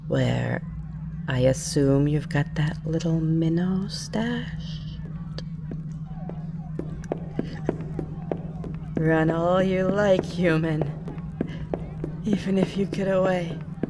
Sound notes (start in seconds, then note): 5.0 voice starts to fade as you run